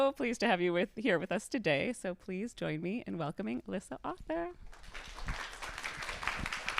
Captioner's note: applause